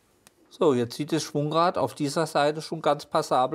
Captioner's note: none